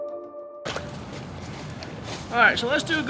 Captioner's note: leaves crunching